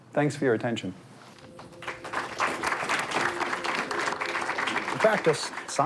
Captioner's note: audience clapping